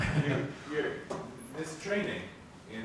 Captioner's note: laughs